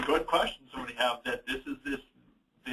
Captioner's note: laughs